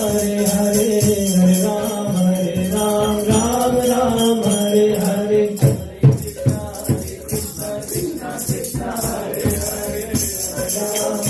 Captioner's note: bell; singing